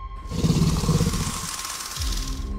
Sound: Scorpius Rex growls

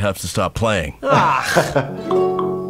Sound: scoffs

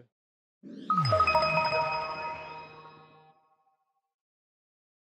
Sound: graphics chiming

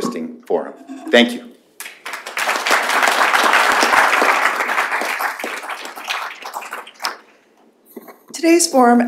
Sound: applause

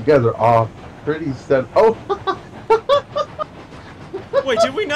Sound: laughter

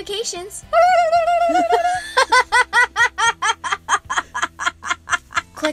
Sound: laughter

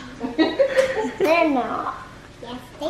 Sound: laughing

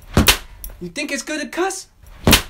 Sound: whipping sound

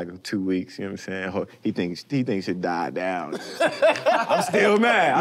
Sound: laughter

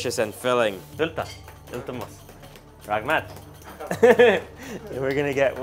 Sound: in foreign language

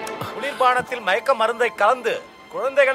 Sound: TV news

